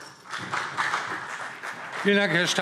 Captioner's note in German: Beifall CDU und BÜNDNIS 90/DIE GRÜNEN